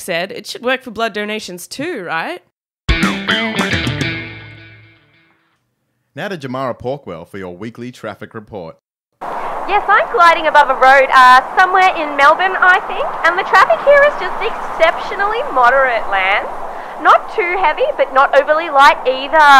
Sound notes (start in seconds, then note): 9.4 wind sounds